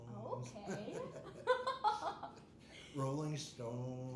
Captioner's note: laughing